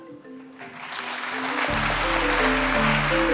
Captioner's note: applause